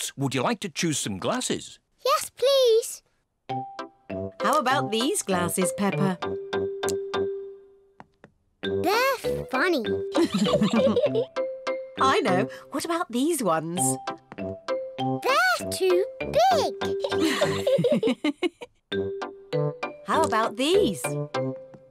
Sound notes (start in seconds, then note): 10.2 laughs; 16.9 laughs